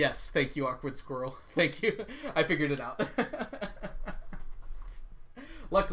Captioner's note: laughs; laughs